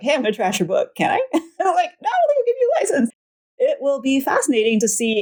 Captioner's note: laughs